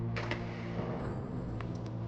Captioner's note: door opening